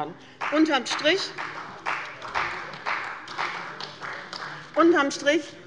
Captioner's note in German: Beifall bei der CDU